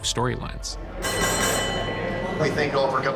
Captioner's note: bell dinging